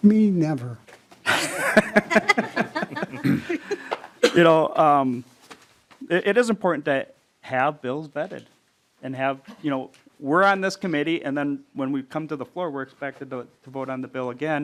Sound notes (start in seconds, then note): 9.4 laughing